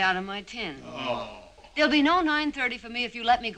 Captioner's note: all groaning